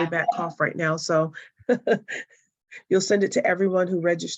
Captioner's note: chuckles